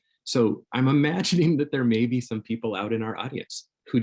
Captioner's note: chuckles